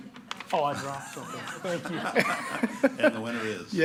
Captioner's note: laughing